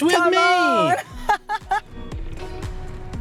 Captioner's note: laughs